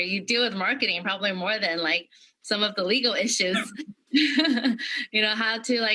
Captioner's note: laughter